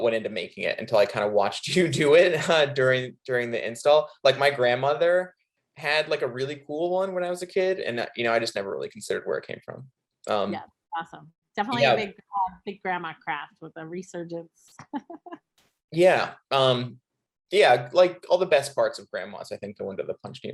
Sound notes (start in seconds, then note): 15.6 chuckles